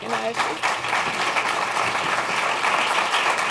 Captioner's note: applause